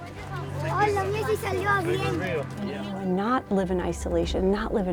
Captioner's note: girl speaks in Spanish